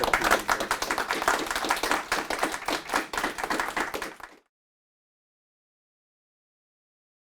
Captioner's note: applauds; audience applauding